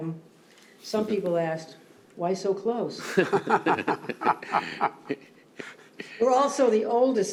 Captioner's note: laughter